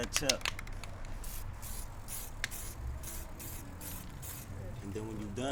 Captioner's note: spray paint hissing